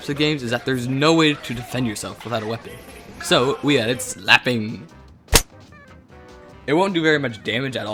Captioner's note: showcase slapping